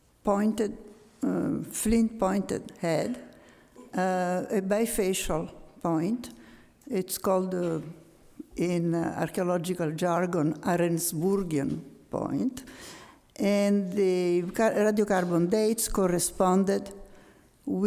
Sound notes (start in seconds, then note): 11.2 speaks foreign language